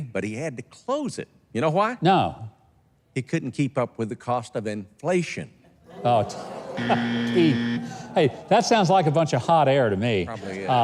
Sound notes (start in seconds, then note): 6.7 audience wowing; 6.7 buzzer buzzing